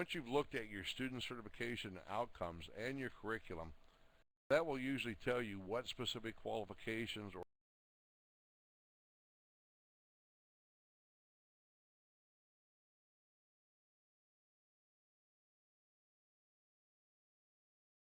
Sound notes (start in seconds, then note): 7.9 audio drops